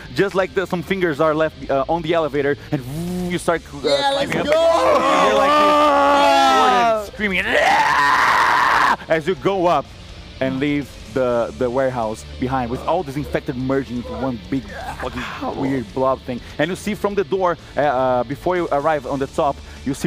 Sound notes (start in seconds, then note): 2.7 elevator noise